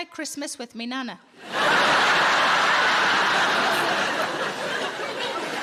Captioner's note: audience laughing